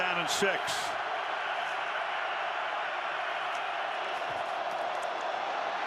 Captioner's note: cheers